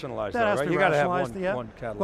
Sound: group chattering

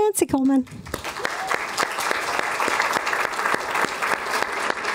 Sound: applause

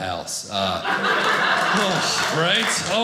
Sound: audience laughing

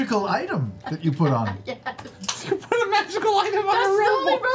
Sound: laughs nervously

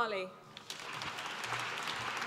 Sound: applause

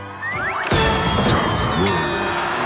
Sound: dinging; cheering

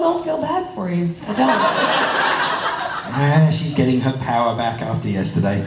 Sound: crowd laughs

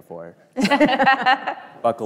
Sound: both laughing

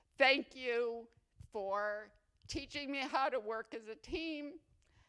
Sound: none

